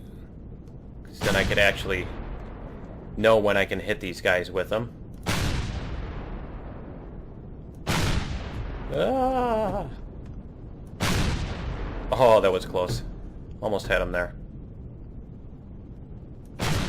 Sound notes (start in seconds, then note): 0.2 rockets firing; 5.0 rockets firing repeatedly; 10.9 rockets; 16.6 repeated rocket fire